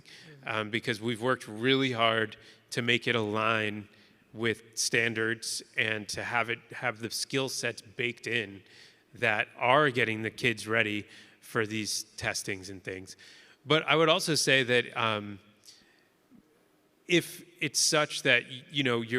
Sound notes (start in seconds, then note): none